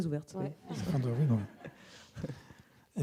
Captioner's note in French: rires